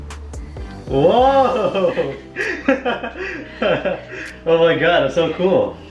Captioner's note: laughing